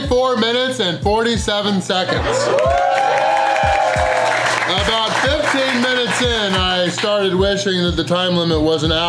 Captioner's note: crowd cheering